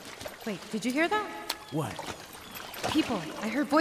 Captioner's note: water splashing